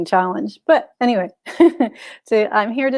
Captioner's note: chuckles